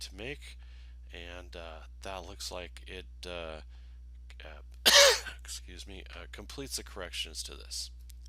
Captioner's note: cough